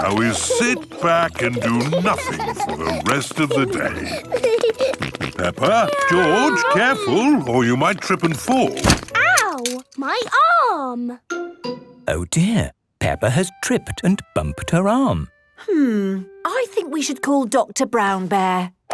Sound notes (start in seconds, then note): 8.0 thumps